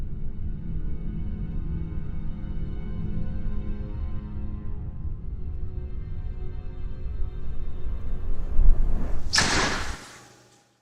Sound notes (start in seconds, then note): 8.6 sudden gust of wind